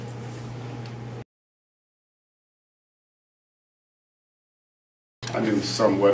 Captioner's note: silence